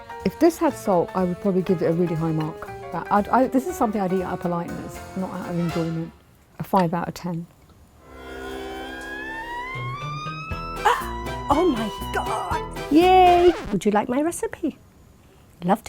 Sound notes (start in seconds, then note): 8.0 intense music; 10.8 gasping